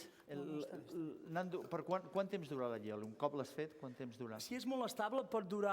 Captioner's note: non-english speech